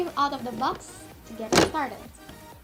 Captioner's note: box noises